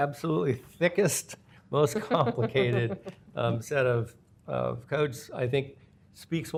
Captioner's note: laughter